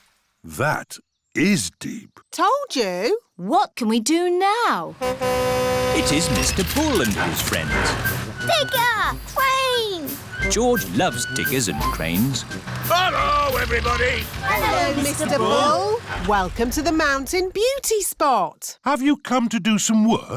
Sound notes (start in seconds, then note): 4.5 horn honks